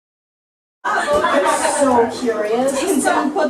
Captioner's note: loud chatter